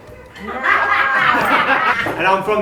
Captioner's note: laughter